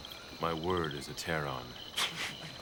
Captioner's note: chuckling